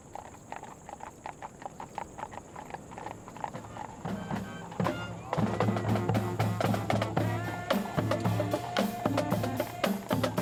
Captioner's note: horses walking